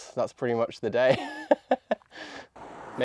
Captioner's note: laughing